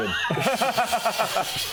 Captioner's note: deserved laughter